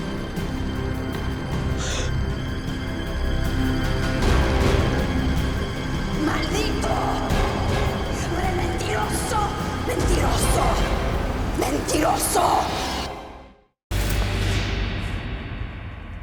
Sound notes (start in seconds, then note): 1.7 gasps; 6.2 woman speaking Spanish; 13.9 eerie piano music